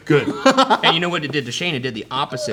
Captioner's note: laughs